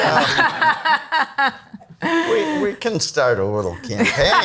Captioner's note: all laugh